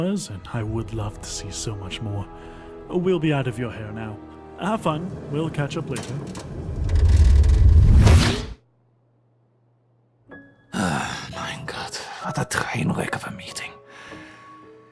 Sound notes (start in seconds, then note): 6.7 portal dissipates; 10.7 sighs